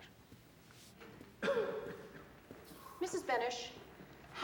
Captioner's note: coughs